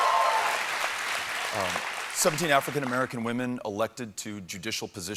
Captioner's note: applause